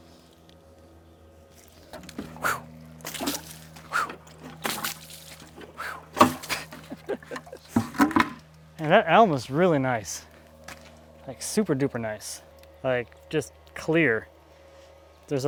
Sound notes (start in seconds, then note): 1.6 water splashing; 6.4 laughing